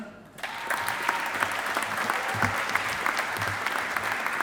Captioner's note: audience applauding